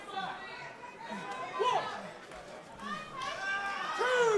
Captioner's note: crowd chatter